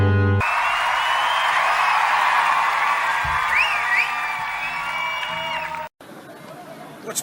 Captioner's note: cheering